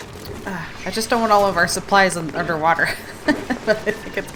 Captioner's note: laughs